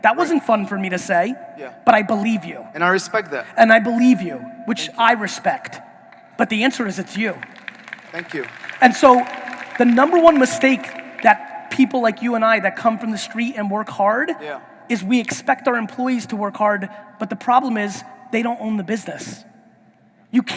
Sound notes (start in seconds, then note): 7.0 audience applauding